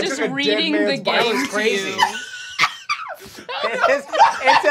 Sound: laughing

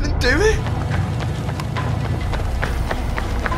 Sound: footsteps running

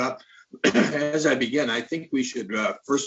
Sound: clears throat

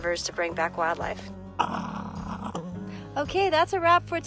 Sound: swift fox growls

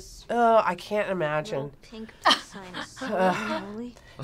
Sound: laughs

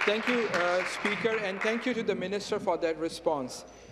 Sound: applause

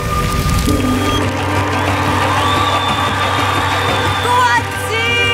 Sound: audience applauding

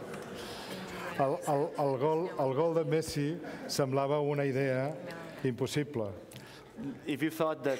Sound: speaking catalan

